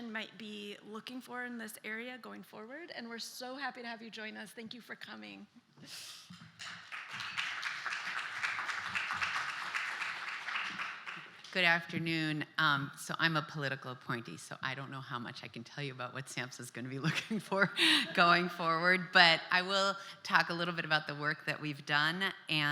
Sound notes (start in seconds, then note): 6.5 applause